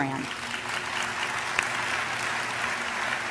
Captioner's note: applause